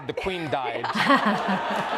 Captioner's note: laughs; audience claps